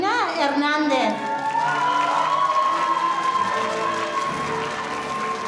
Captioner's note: audience applauding